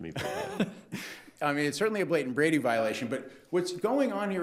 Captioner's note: laughs